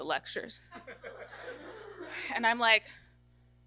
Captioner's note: audience laughter